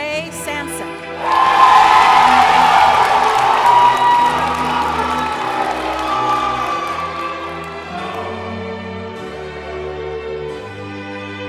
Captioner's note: cheering